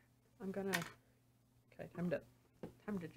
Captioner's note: none